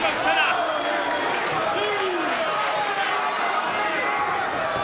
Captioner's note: crowd chattering